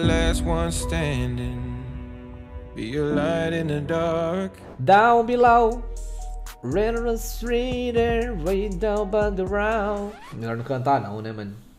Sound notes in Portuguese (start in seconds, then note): 4.3 cantando inglês